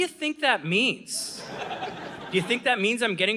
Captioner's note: audience laughing